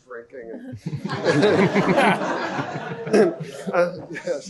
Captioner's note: laughter